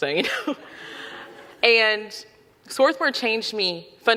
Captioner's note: audience laughing